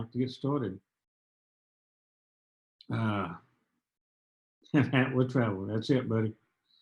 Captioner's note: laughter